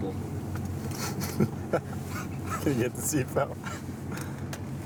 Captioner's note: laughter